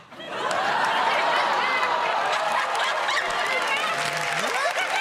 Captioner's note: laughter